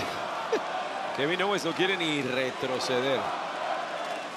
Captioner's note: laugh